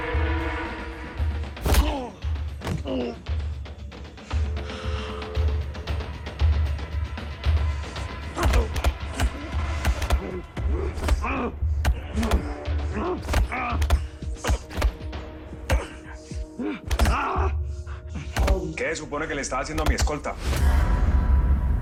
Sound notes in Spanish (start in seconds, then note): 0.2 Quejido; 2.3 Golpes; 2.6 Quejidos; 8.2 Golpes